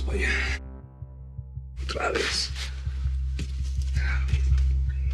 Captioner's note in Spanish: Comenta entre dientes